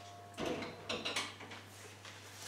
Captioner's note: sieve clunks